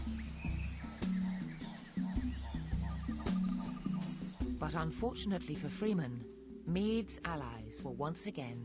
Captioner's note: jungle noises